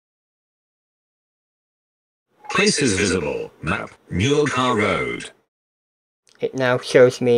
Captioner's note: computer voice